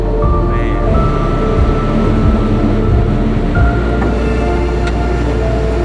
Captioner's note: tow truck winch whirring